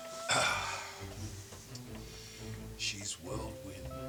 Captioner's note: clearing throat